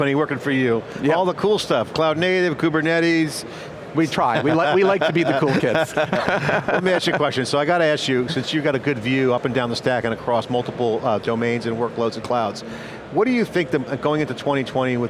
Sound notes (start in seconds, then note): 6.2 chuckles